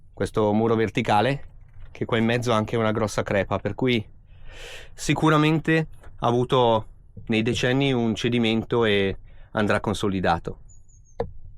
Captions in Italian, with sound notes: questo muro verticale che qua in mezzo ha anche una grossa crepa, per cui [sbuffare] sicuramente ha avuto nei decenni un cedimento e andrà consolidato.